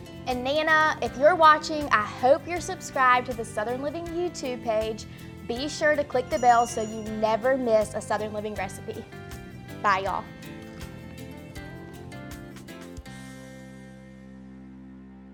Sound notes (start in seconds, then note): 6.2 bell ringing; 11.1 gentle music